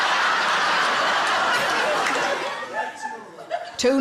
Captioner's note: audience laughs